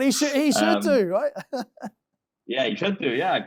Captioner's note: chuckling